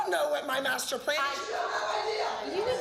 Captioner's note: arguing